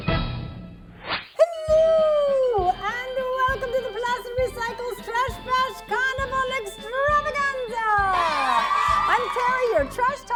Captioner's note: cheering